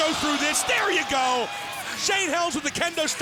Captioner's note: crowd cheering